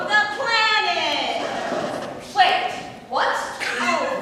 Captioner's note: record scratch